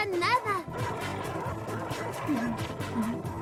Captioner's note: wolves growling